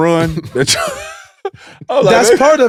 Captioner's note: laugh